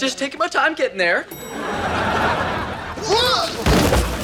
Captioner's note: elevator dings; shouts